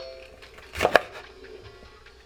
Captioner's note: chopping noise